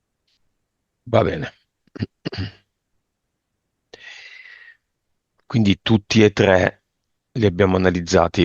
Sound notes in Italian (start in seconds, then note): 1.9 schiarire la voce; 1.9 tosse